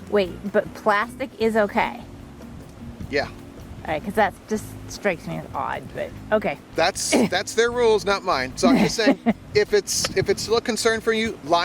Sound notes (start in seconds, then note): 8.6 woman laughs